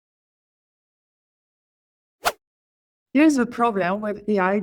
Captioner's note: silence